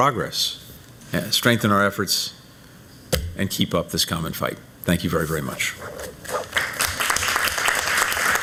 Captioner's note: applause